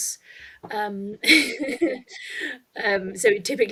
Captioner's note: chuckles